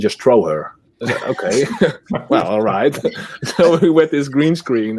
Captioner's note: all laughing